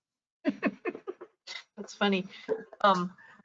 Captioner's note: laughs